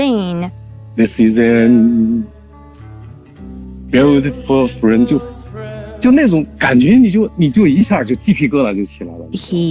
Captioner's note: singing along; speaking Mandarin Chinese